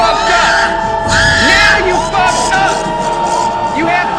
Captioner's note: pig Oinking